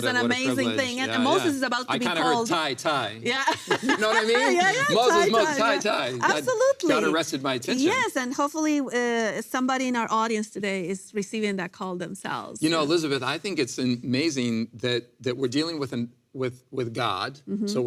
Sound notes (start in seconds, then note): 3.4 laughs